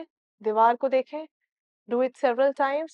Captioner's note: in Urdu